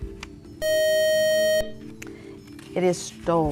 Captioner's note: beeping